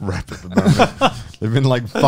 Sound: laughing

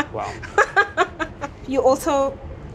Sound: laughs

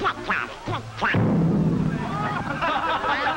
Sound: bang

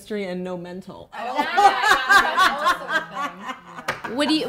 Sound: laughing

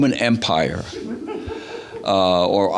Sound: audience laughs

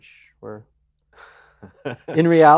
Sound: chuckles

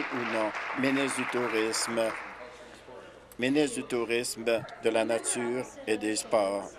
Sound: applause

